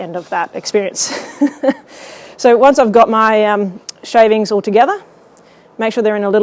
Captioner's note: laughing